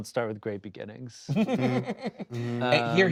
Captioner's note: laughing